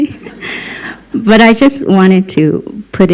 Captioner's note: laughter